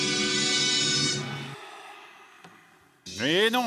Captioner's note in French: soupir